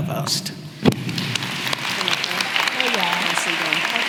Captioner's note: applause